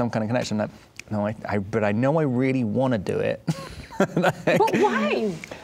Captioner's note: laughing